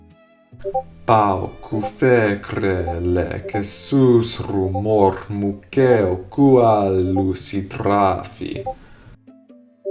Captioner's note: speaking in reconstructed seriki